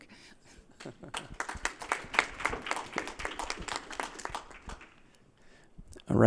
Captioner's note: applause